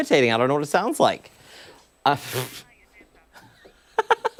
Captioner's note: laughter